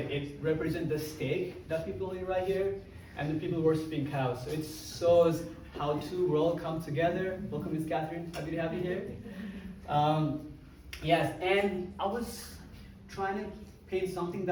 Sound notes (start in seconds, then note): none